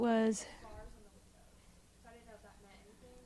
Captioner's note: silence